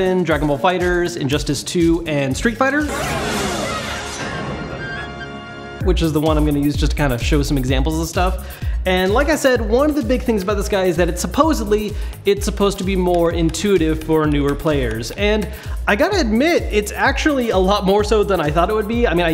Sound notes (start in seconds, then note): 2.8 light flute music; 2.9 group shouts